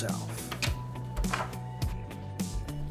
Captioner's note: door noises and footsteps